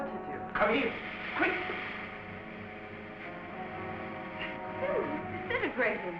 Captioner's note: suit hissing